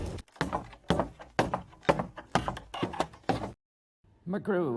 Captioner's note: footsteps thudding